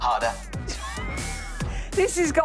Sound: laughing

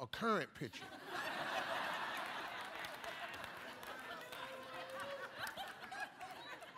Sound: laughter; applause

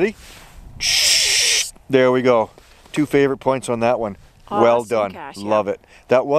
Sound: scraping sound

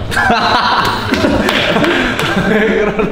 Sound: slap

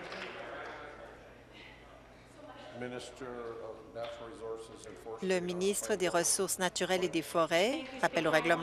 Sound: applause

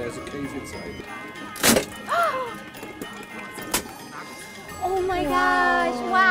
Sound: cutter crunches

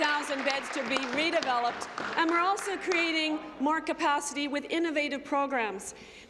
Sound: applause

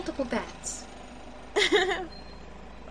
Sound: laughs a little, teasing

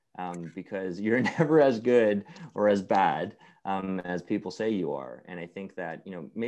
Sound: laugh

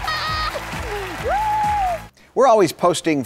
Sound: cheering

